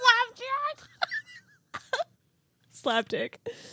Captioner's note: laughing